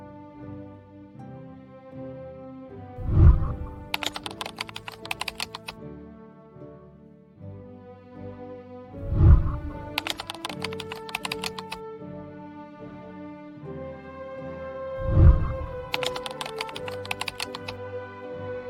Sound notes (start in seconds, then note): 3.0 whooshing sound; 3.0 keyboard clicking; 9.0 whooshing sound; 9.2 keyboard clicking; 15.0 whooshing sound; 15.0 keyboard clicking